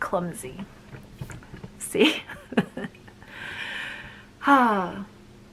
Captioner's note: laughing